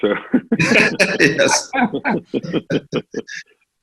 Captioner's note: all laugh